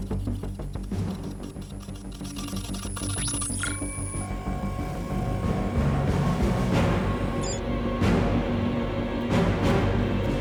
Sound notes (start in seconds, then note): 3.8 device beeping; 6.6 dramatic music continues